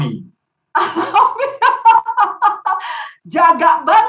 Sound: laughing

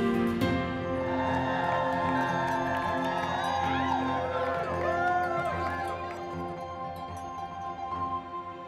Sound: cheering

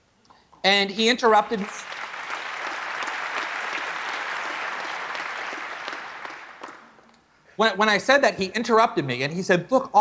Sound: applause

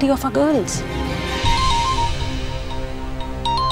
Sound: cell phone ringing

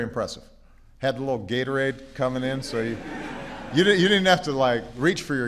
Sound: laughter

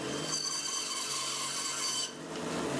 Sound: saw screeching

